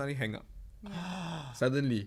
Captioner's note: gasps